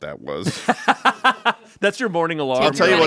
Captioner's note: laughs